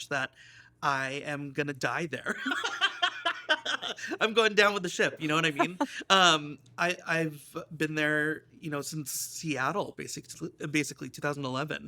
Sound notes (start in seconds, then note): 2.3 laughs